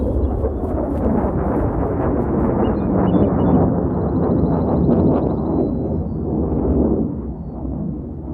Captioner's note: fighter Jet Sound